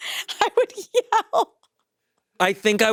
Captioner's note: chuckles